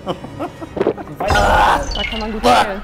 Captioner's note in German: Lachen, Ekellaut